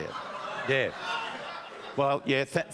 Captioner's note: audience groan and laugh